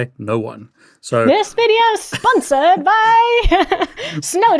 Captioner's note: chuckles